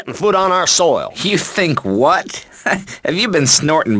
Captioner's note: chuckles